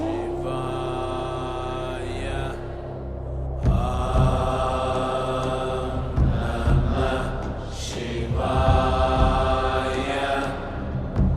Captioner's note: participants chant along